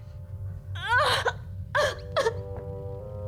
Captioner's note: crying